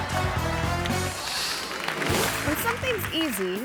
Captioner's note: audience laughing; audience clapping; upbeat music; image whooshes